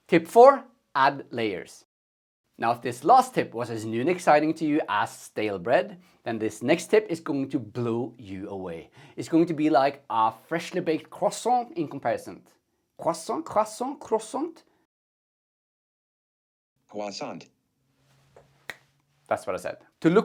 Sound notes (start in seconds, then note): 16.8 computer voice; 18.6 snaps fingers